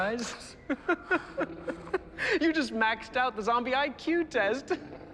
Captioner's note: laughs; laughs